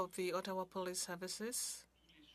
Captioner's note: speaking French